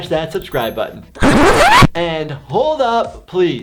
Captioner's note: record scratching